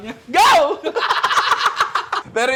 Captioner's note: laughs; laughter